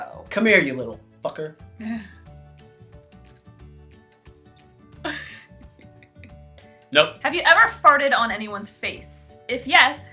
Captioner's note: chuckles